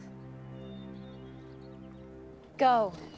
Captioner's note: bird chirp